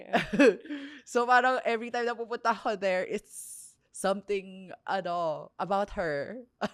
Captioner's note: laughs